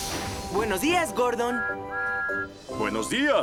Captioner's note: toot-Toot!